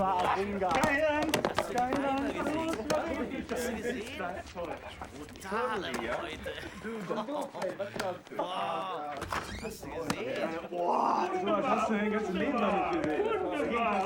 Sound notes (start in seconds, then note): 2.5 speaking german